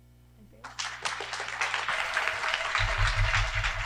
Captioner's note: applause